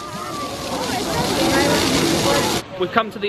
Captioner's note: water gushing